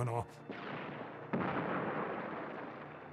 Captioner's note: explosions